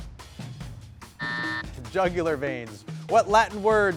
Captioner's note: buzzer rings